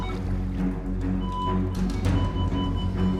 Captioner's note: beeping